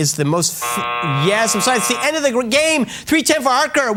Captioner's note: buzz!